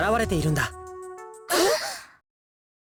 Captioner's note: gasp